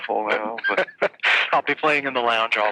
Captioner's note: laughing